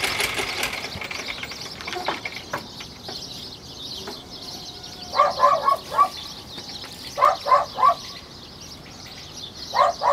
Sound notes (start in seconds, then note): 4.4 birds chirping; 5.1 dog barking